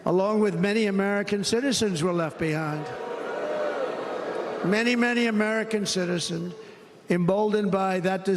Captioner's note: cheers and applause